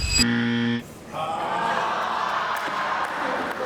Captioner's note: laughter